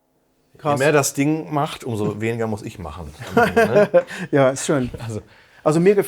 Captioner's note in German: gelächter